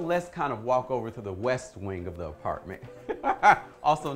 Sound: laughing

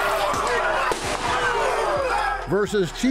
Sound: gun bangs

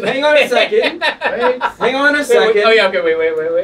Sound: laughs

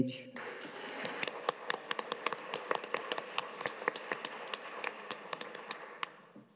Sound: audience and panelists applauding

